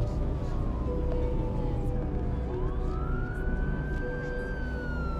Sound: siren approaching

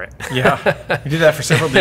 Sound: both laugh

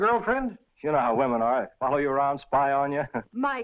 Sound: chuckles

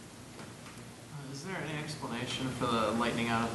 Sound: voiceover

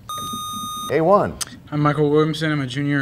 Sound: sound of a buzzer

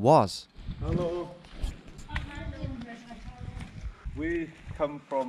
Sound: speaking foreign language

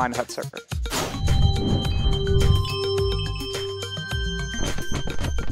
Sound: whoosh and jingle noise

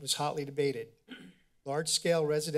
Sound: clear throats

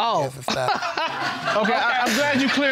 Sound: all laughing

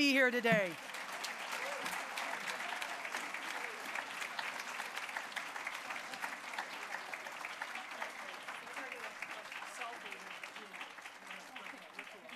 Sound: applause

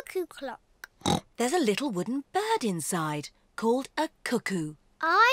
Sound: oinks

